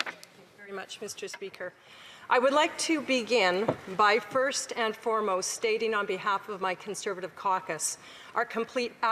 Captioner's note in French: voix de l'interprète